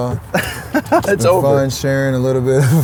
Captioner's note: laughs